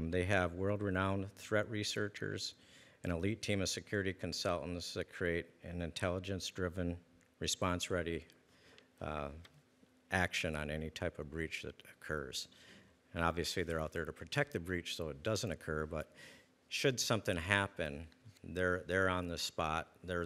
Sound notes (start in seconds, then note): none